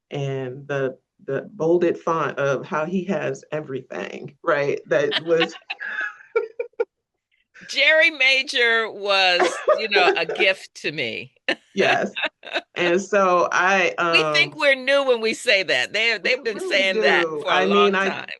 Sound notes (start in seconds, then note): 4.6 both laugh; 9.1 laughs